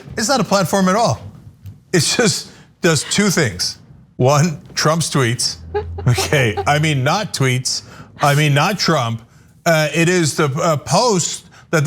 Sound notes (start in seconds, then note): 5.5 laugh